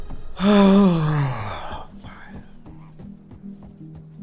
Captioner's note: sigh of relief